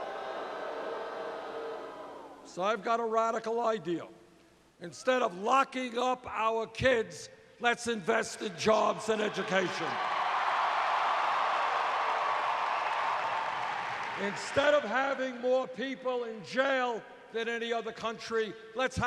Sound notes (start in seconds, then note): 10.7 cheers and applause